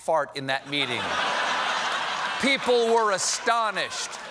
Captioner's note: laughter